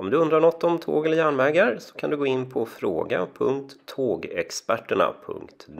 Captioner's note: in Swedish